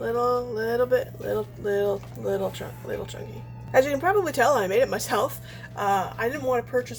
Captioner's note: laughs